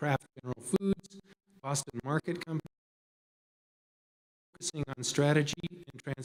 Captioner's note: audio cuts out